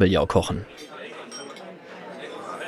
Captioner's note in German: englisch; Besteck klappert; Menschen sprechen angeregt